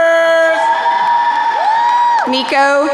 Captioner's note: crowd cheering